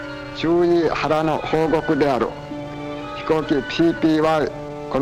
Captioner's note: speaking Japanese